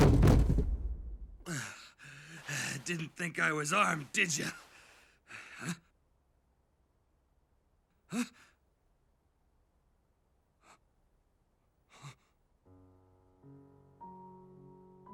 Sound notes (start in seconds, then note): 1.2 panting